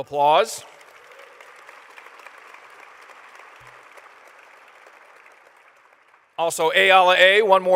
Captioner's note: applause